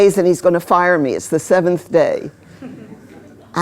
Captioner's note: laughter